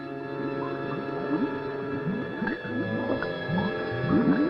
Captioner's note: bubbles gurgling